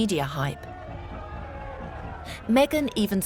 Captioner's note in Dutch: publiek schreeuwt